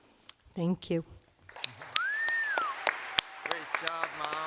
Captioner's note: cheers and applause